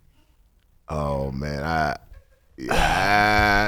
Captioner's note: groans hesitantly